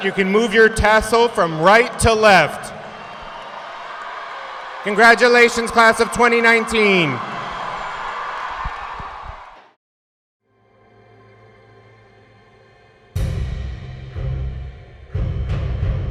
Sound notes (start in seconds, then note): 7.1 audience cheering; 13.2 upbeat music